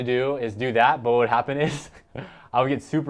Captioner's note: laughs